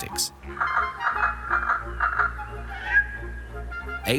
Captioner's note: bird clucks and chirps